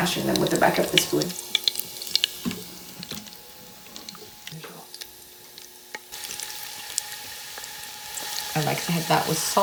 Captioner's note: garlic sizzles